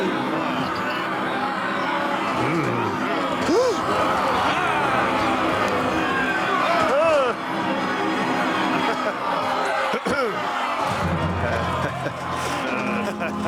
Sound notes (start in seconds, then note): 0.1 angry crowd noise; 10.0 clears throat